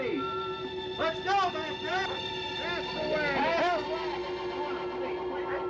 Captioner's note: murmuring